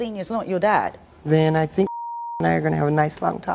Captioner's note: beeps